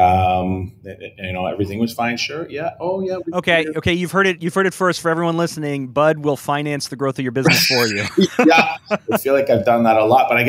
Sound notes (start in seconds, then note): 7.4 laughs